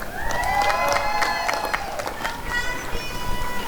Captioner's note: applause and cheering